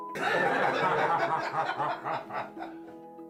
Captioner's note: men laughing